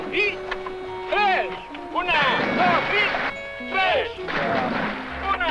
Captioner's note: water splashing